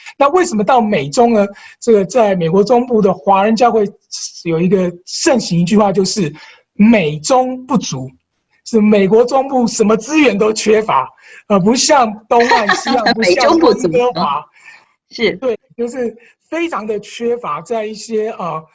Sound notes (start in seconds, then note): 12.3 laughter